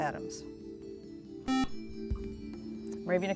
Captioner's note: beep